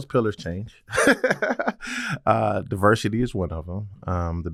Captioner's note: laugh